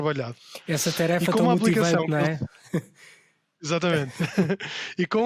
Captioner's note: laughs